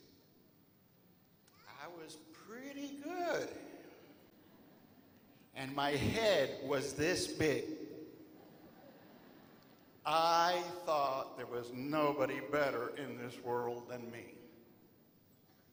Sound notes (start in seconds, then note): 8.3 laughter